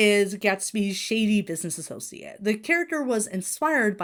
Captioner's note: none